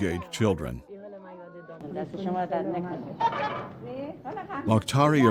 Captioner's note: speaking foreign language